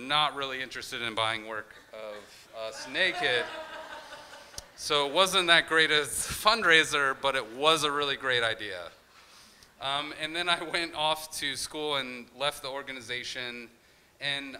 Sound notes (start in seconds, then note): 2.6 crowd laughing